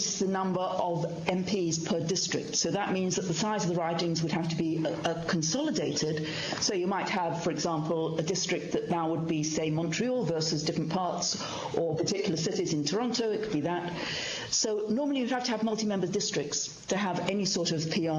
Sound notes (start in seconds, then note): 5.3 speaking in french